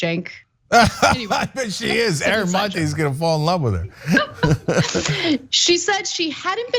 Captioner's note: laugh